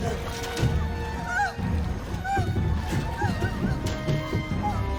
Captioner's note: Sophie sobbing